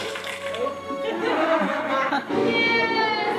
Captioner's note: laughs